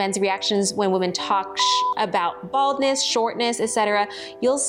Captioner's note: beep